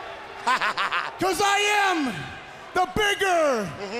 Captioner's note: crowd chatter